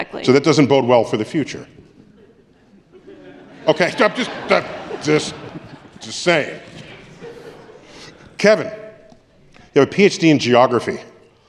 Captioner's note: crowd response